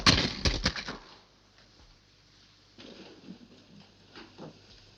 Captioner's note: object banging